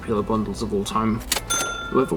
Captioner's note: stock Cash Register Sound effect